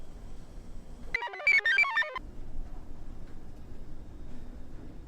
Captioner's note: computer chirps